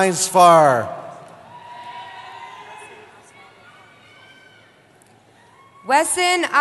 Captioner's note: cheering